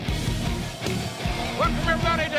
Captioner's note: crowd cheering